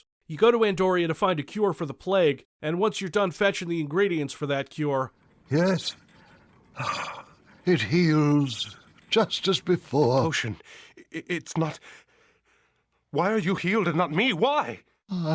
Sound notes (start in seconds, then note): 5.3 sighs; 11.8 breathing shakily